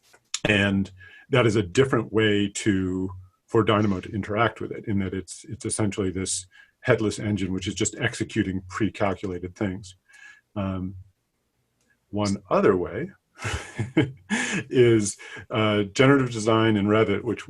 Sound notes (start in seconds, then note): 13.4 laughing